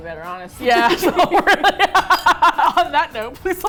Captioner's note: laughing; laughs